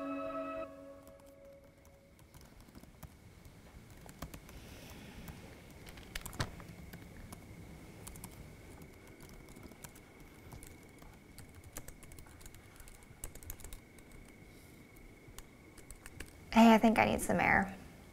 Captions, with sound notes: (typing) Hey, I think I need some air